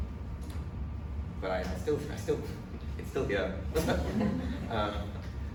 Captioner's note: laughs